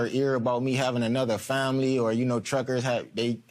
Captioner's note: none